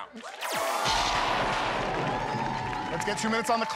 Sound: thunder crashes

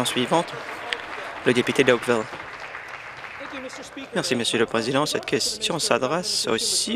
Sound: some Applause

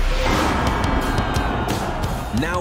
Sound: crowd cheering

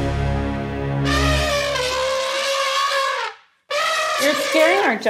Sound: elephant noises

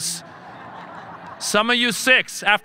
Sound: audience laughing

